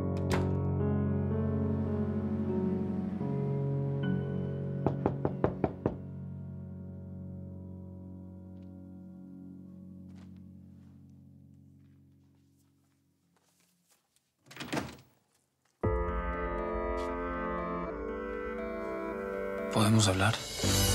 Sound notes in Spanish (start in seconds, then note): 4.8 Toques en la puerta; 14.4 Sonido al abrir la puerta